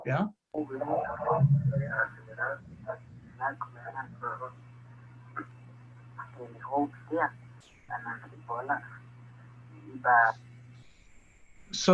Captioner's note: man speaking Chontal